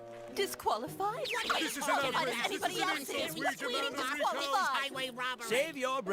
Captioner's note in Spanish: equipo rocket se queja